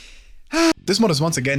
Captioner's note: inhale; sigh